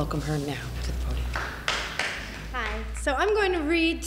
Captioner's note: audience clapping